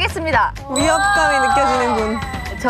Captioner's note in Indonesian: Bersorak